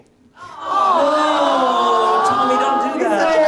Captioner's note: audience coos